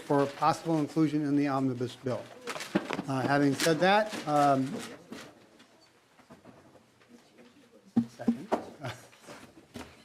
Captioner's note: gavel